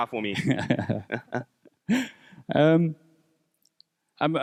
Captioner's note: laughs